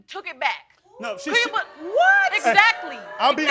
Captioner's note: crowd oohing